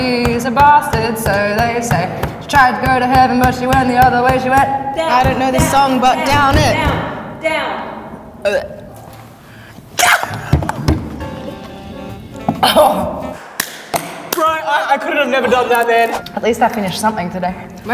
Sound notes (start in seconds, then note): 0.2 singing; 10.0 gagging; 13.6 clapping